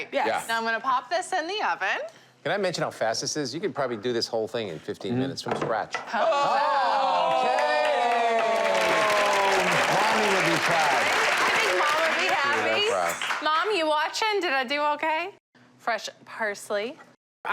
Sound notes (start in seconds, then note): 6.1 gasping and cheering; 7.2 applause